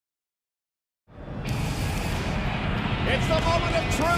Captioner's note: audience cheering